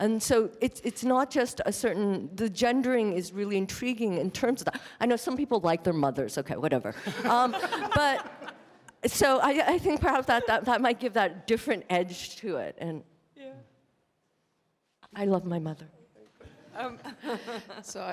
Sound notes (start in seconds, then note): 7.0 laughter; 16.7 laugh